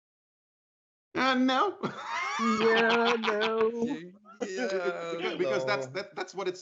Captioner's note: laughter